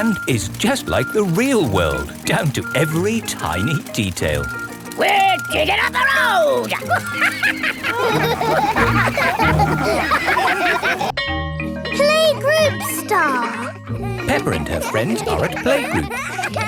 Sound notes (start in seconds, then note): 6.8 chuckles; 8.6 all laugh